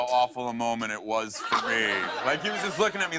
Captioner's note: laughter